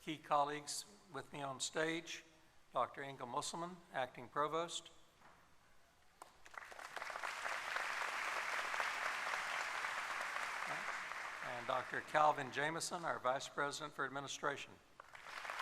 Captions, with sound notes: It's my privilege to introduce key colleagues with me on stage, Dr. Inga Musselman, Acting Provost. [applause] and Dr. Calvin Jamison, our Vice President for Administration.